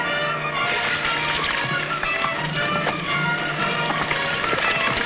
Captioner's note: horse hooves pattering